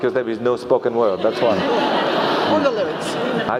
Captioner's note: laugh